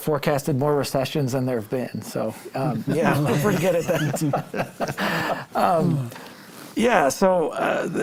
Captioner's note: laughter